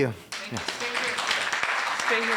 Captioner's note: applause